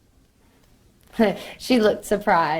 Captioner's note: laughs